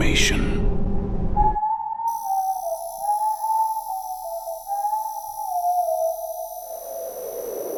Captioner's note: ominous whistling